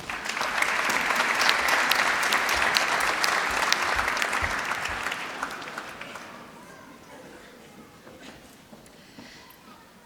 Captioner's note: applause